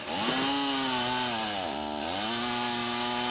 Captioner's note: saw buzzing